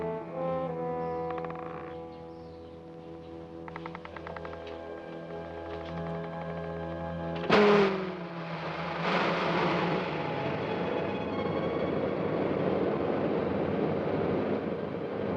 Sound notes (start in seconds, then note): 0.0 dramatic music; 7.4 loud whirring